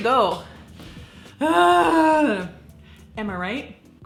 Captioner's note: groans